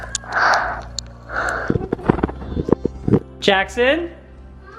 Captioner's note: laughs; breathing